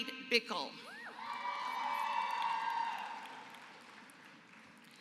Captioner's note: applause